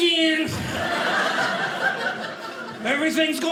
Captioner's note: audience laughing